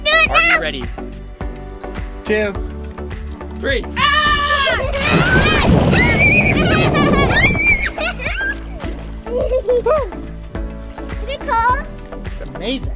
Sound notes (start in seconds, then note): 4.7 water splashing loudly; 6.7 laughing excitedly